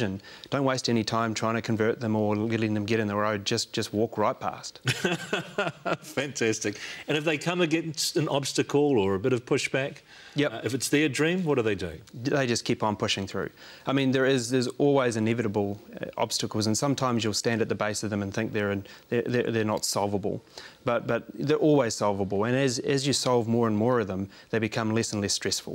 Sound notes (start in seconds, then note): 4.8 laughing